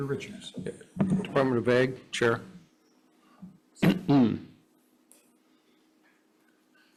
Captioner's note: clears throat